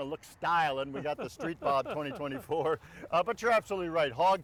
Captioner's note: chuckles